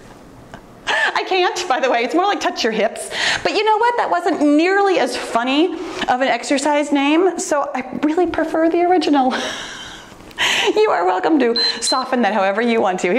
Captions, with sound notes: I can't, by the way, it's more like touch your hips, but you know what? That wasn't nearly as funny of an exercise name. So I really prefer the original. (laughing softly) You are welcome to (timer beeps) soften that however you want to.